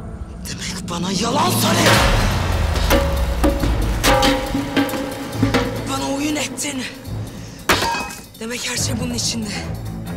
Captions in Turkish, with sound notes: Demek bana yalan söyledin! (Tekme atma sesi) (Güğüm yuvarlanma sesi) Bana oyun ettin. (Vurma sesi) Demek her şey bunun içindi.